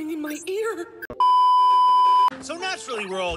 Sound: beep

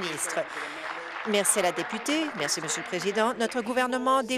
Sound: applause

